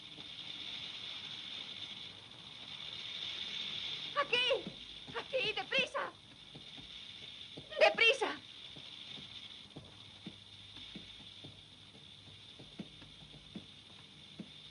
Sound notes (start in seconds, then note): 8.7 sonajeros de serpientes